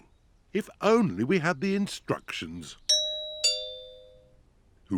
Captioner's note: doorbell rings